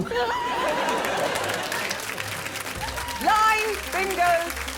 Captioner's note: laughing